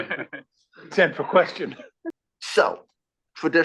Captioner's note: laugh